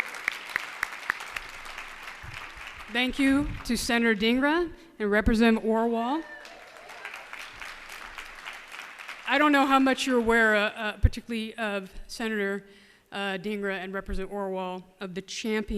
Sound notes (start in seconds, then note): 6.2 applause